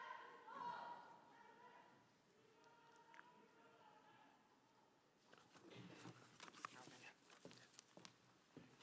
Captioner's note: shouting ends